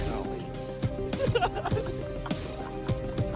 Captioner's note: giggles